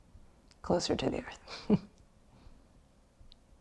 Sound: chuckles

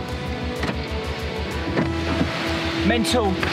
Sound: door clicks

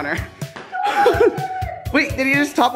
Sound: laughing

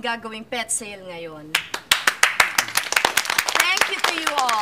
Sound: applauding

